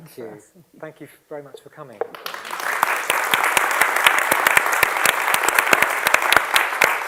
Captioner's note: applause